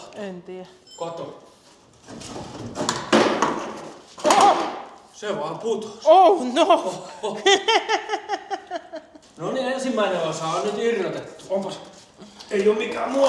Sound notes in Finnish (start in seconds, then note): 6.3 naurua